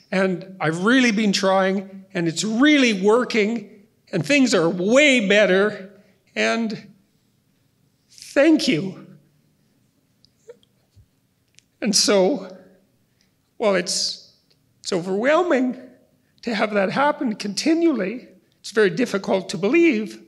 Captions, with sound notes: I've really been trying and it's really working and things are way better, and thank you." *voice crackles* And so, Well, it's overwhelming to have that happen continually. It's very difficult to believe,